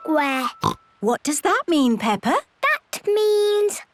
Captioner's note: snorts